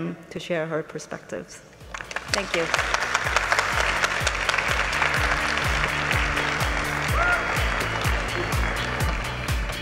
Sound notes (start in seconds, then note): 1.9 audience applauding; 6.0 upbeat music